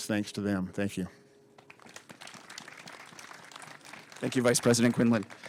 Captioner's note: applause